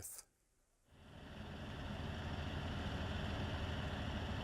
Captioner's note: airplane engines